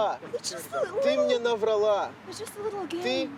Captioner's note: speaking russian